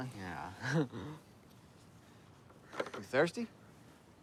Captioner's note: laughs